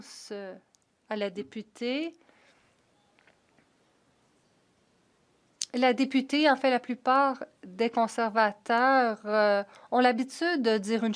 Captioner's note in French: voix de l'interprète